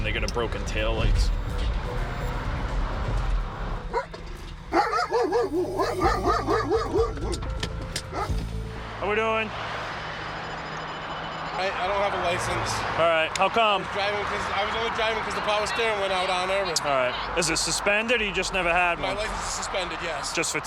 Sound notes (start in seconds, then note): 4.7 dog bark